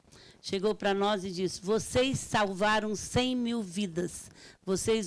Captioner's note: speaking Portuguese